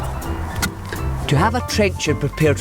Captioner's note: thunk